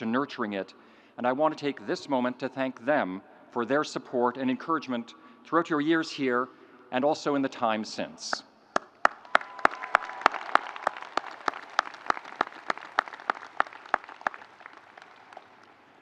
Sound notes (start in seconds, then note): 9.0 audience applauding